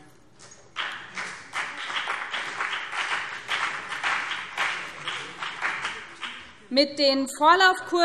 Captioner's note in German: Beifall BÜNDNIS 90/DIE GRÜNEN und CDU